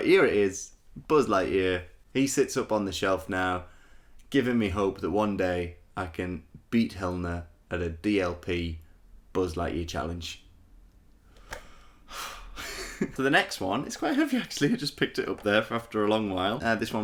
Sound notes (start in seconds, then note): 12.0 sighs